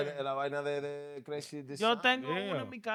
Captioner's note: speaking In Foreign Language